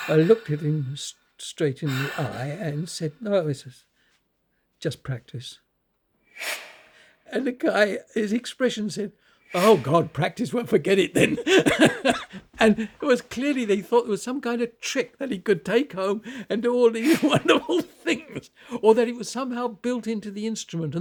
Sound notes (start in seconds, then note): 10.9 laughs